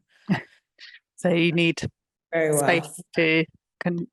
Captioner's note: chuckling